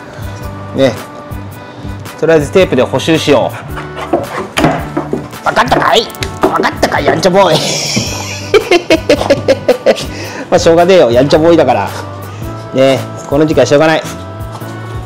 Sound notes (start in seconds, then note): 8.4 laughs